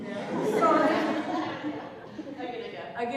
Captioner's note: laughter